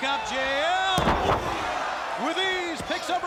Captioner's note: wrestlers thudding